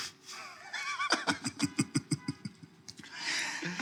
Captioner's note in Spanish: risas